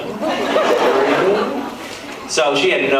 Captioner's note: laughs